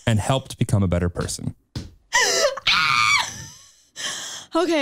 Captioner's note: chuckles